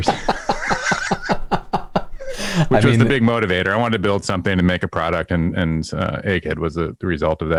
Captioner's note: laughter